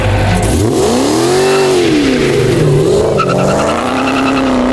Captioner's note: car engine roaring